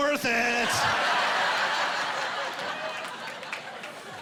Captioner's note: laughing